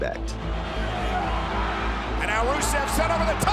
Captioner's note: applause